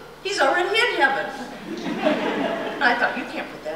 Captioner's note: laughter